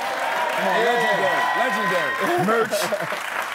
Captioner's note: audience shouting